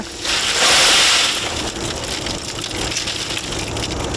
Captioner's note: mussels rattling